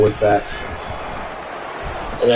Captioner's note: crowd Noises